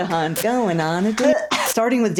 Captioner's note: cough